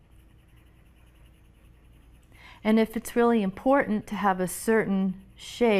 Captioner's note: pencil scratching